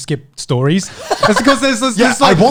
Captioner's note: laughing